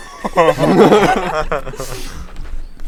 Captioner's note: laughs